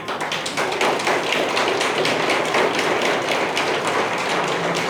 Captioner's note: audience applauding